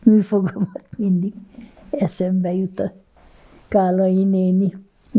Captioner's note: laughing